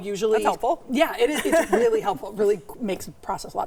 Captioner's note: laughs